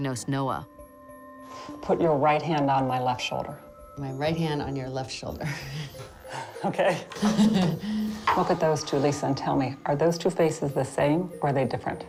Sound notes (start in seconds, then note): 5.4 chuckles; 6.9 laughs